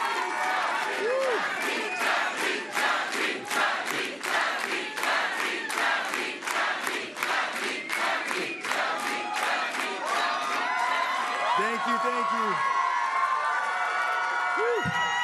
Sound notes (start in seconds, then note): 2.3 cheering; 8.3 chanting